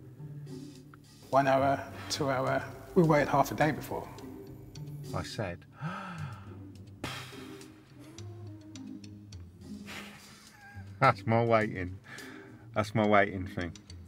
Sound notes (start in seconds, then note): 5.7 exhales